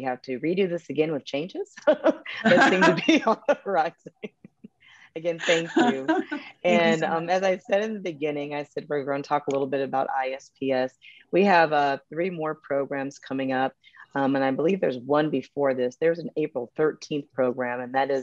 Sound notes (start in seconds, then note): 1.9 chuckles; 2.4 murmurs